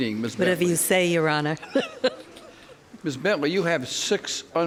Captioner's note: laughs